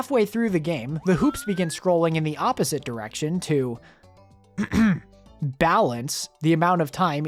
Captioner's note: ahem